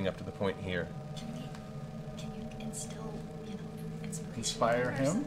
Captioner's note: whispers